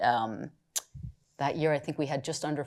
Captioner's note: clicks tongue